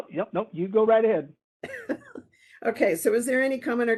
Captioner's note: laughing